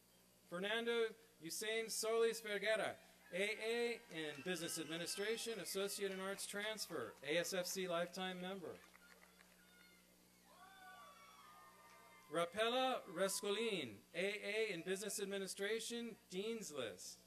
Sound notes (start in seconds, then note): 8.6 applause and cheering